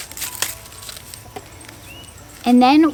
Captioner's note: garlic skin crackles